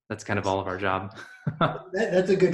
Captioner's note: laughing